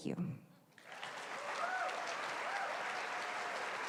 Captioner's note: applause